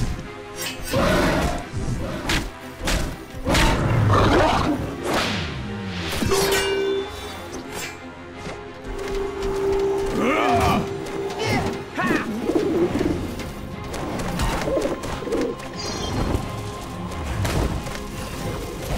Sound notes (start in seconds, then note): 0.5 roaring; 10.0 grunting